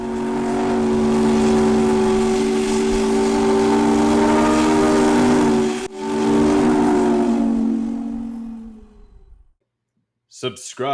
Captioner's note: Lake Mendota Steam Whistle